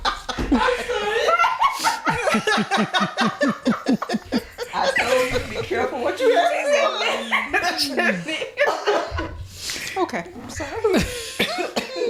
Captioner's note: laughter